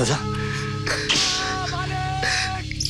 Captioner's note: Bhima screaming in pain